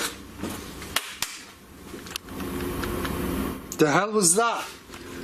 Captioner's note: loud slapping